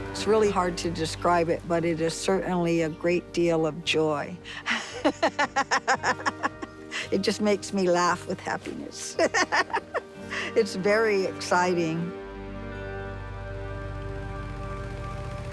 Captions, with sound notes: It's really hard to describe it, but it is certainly a great deal of joy. (laughs) It just makes me laugh with happiness. It's very exciting.